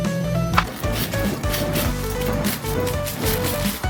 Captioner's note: chop chop chop